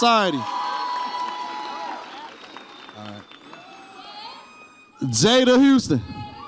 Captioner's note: audience applauds and cheers